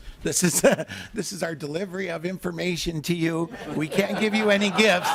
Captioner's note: laughing